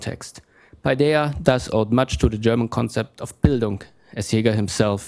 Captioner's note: german